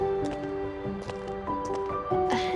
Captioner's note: footsteps clacking